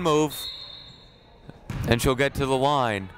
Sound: whistle blowing

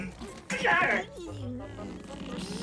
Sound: groaning

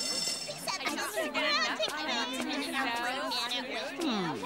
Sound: hallway chatter

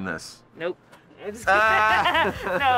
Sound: laughter

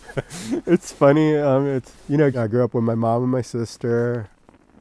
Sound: laughing

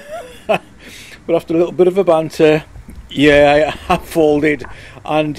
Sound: chatting

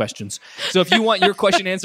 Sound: laughs

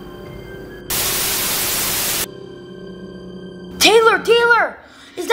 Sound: TV static

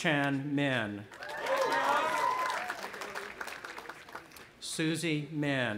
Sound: audience applauding and cheering

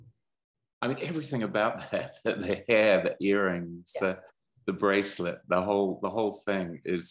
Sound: laughs

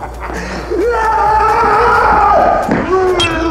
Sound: shouting

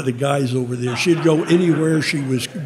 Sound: audience laughing

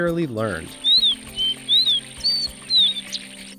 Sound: Iberá seedeater song

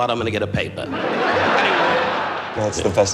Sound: laughing

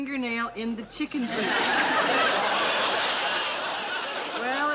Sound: laughter

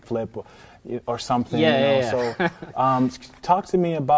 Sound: laughing

